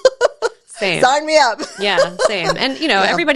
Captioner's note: laughs